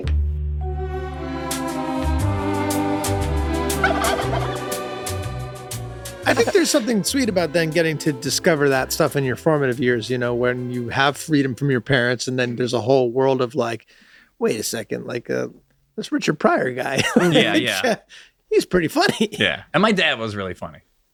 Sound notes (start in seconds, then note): 0.1 gentle instrumental music; 3.8 bird garbles